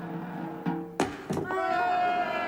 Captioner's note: thudding; crowd cheering